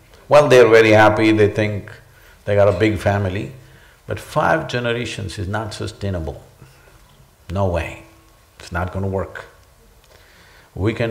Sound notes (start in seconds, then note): none